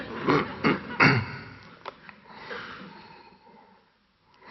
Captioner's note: audience laughing